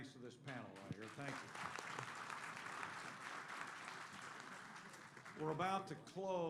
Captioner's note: applause